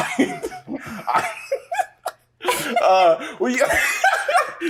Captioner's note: laughs